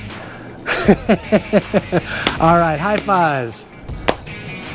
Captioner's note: laughs